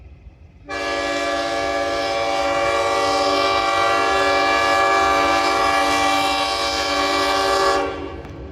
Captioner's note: another horn